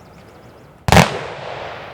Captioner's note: gunshots